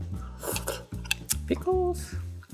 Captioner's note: slurping